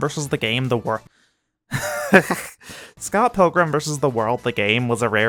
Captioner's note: laughs